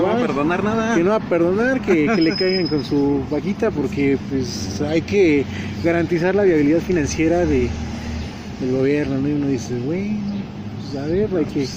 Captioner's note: laugh